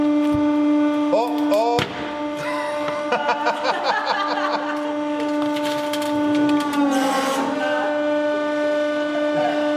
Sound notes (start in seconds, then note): 2.4 both: laughing